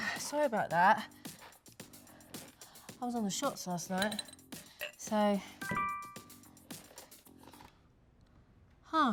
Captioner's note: notification sound